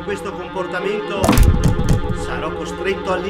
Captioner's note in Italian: Colpo sulla porta